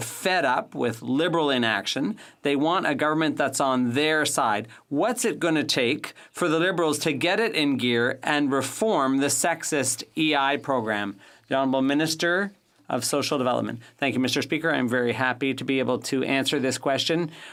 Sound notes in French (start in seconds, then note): 3.6 voix de l'interprète